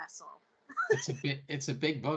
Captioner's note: laughing